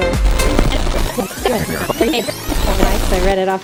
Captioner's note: tape rewinding